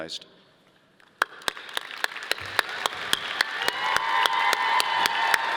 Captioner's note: audience applauding